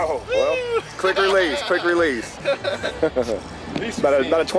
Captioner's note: both laugh